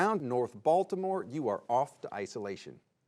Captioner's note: none